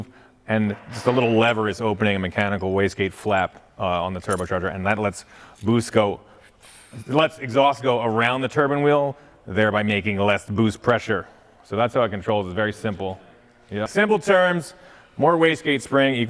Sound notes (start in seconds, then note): none